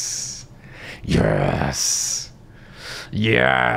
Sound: growling

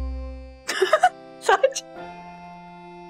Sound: laughs

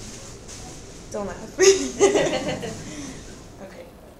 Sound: chuckles

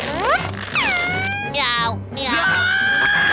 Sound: meowing, screaming; screaming

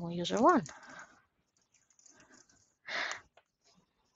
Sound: keyboard clicking

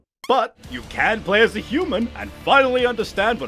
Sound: none

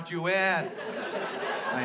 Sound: crowd laughs

